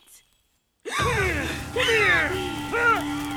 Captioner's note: suspenseful music; gasping